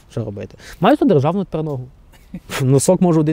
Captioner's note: laughter